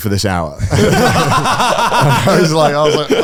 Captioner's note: all laugh